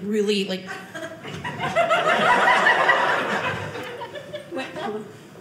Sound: audience laughing

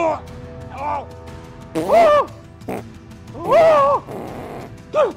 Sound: Will retching and farting

